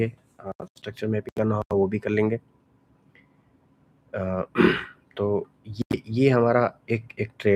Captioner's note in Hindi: गला साफ़ करने की आवाज़